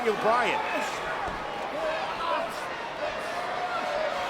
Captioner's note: crowd chattering